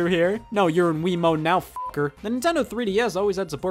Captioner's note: beep